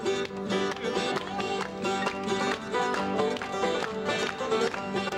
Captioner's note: audience clapping in rhythm